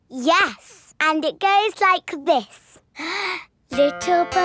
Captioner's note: inhales